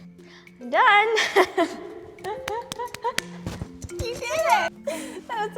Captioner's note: laughs